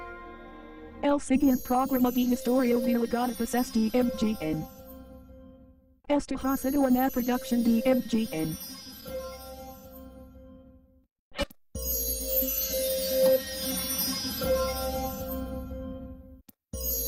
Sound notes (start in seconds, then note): 0.9 Microsoft Mary speaking Spanish; 5.9 Microsoft Mary speaks Spanish